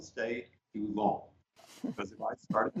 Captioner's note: laughter